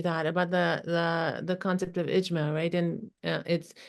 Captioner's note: non-english speech